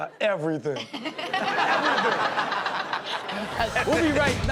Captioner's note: audience laughs